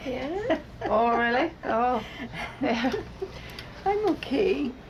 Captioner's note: chuckles